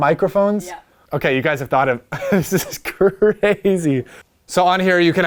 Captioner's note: laughs